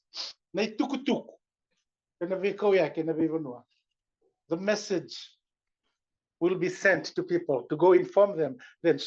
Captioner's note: non-english